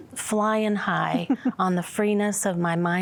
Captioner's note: giggling